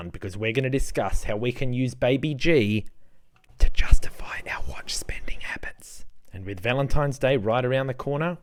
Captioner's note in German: flüstert: *um unsere Ausgabengewohnheiten für Uhren zu rechtfertigen!